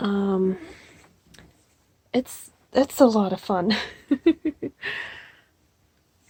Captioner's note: giggles